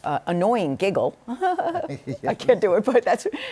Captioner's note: giggles